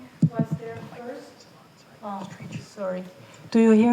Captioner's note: technician faintly speaking